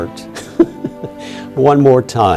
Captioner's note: laughs